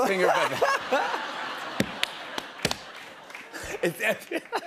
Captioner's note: laughter